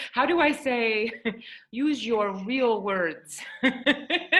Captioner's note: laughs